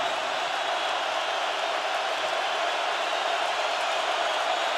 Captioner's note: crowd roaring